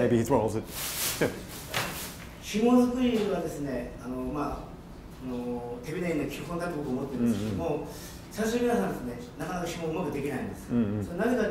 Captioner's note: foreign Language Spoken